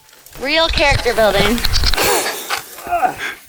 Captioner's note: laughs